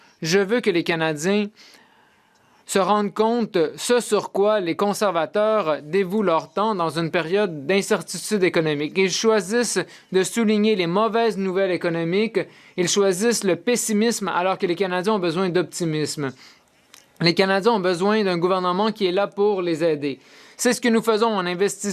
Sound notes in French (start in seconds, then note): 1.8 voix de l'interprète